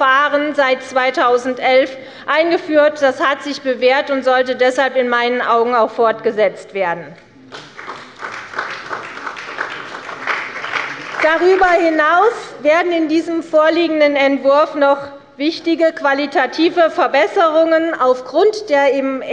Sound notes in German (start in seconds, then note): 7.5 Beifall bei Abgeordneten der CDU und des BÜNDNIS 90/DIE GRÜNEN